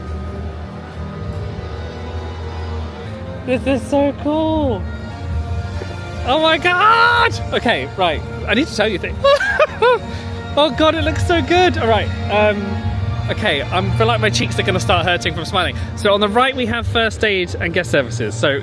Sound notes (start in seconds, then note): 8.9 laughing